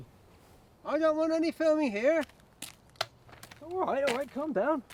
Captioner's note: gun barrel clicks